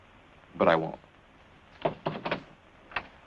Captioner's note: knocking on door